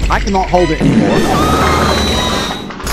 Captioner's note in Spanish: pedo masivo